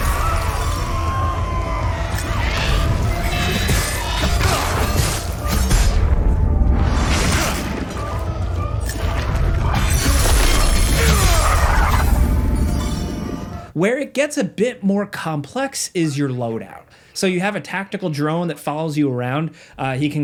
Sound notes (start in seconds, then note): 0.0 chaotic music; 0.0 monsters shrieking; 3.6 blades clanging; 10.3 Remi grunting